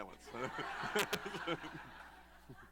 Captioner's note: laughter